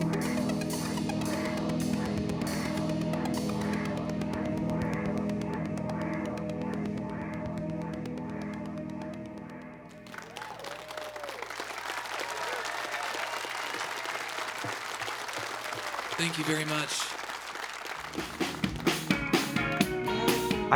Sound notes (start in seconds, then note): 11.6 audience applauding; 18.1 mellow music